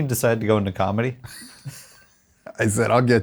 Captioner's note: all chuckles